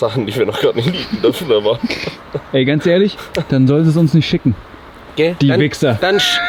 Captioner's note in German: gelächter